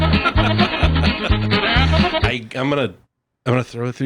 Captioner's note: laughing